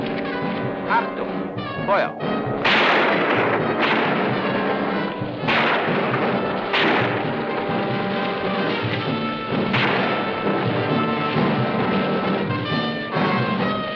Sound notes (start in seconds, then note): 0.9 speaking in a foreign language; 3.3 guns firing